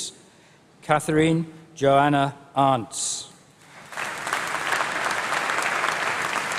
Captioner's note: applause